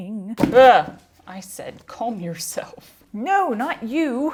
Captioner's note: clunk